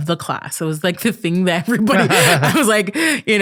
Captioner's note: laughing